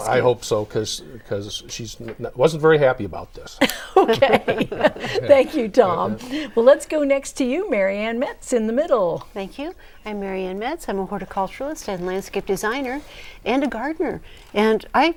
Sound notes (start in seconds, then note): 3.6 laughing